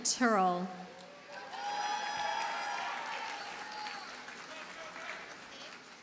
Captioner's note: audience cheers and applauds